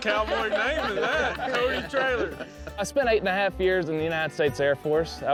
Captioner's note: all laughing